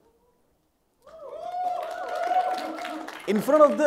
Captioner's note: crowd cheering